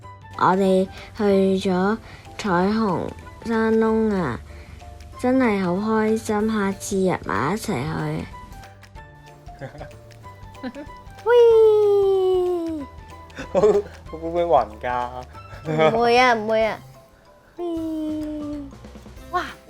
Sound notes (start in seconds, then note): 9.5 Dexter and Jess laugh; 11.3 Jane imitates whirring; 17.0 Jane imitates whirring